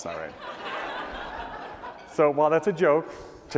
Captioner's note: laughter